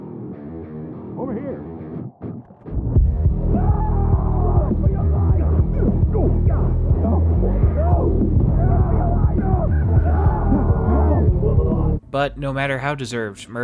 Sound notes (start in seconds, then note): 3.5 man screaming; 7.3 men yelling and groaning